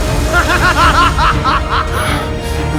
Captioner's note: evil laugh